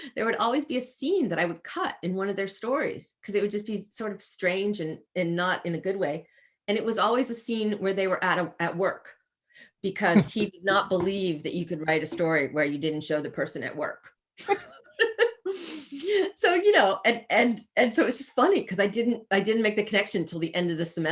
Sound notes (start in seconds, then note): 10.1 chuckles; 14.6 laughs